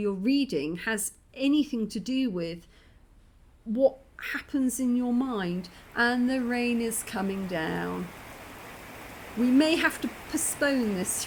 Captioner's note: rain